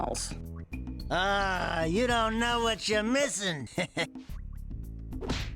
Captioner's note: chuckles